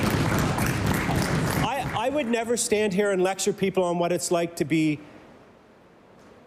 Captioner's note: applause